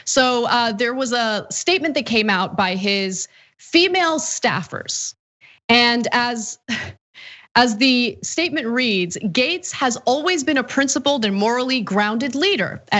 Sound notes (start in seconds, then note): 6.0 laugh